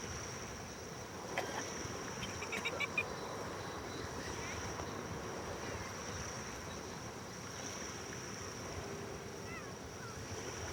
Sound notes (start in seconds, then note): 1.3 Tom coughing; 2.2 Rachael giggling